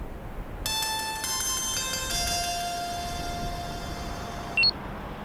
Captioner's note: phone rings